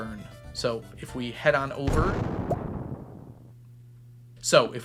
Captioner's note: explosive ammo explosion